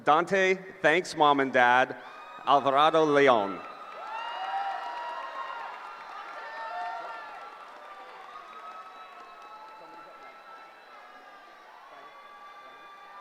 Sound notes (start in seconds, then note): 3.6 cheering